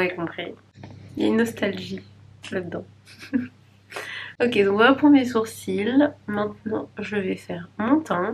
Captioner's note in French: rires